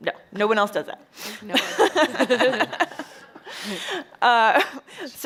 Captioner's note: chuckles